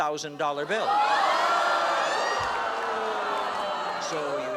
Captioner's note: audience shouting